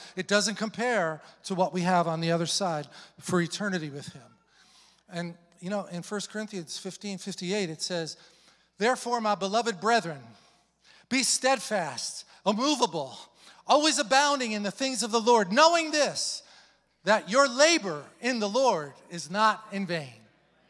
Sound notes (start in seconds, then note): none